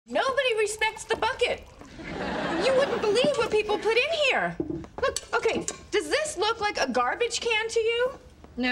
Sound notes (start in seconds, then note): 1.9 audience laughing